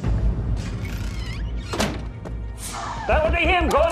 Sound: closing of door

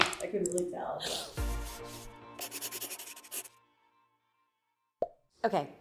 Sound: upbeat music; pen scraping

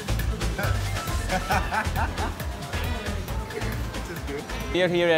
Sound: lively Latin music; laughs

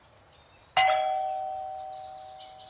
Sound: doorbell

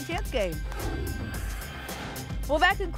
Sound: whoosh

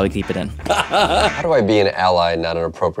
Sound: laughter

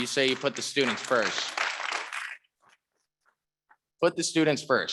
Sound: audience clapping

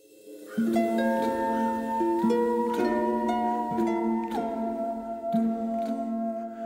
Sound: eerie music; crow cawing

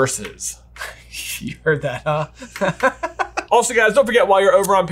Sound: laughs

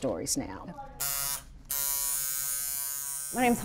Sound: tattoo machine buzzes

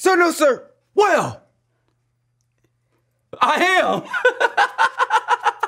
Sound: laughs

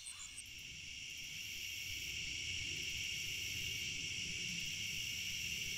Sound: insects chirring

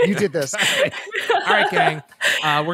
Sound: laughter

